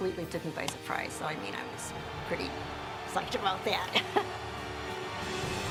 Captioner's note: laugh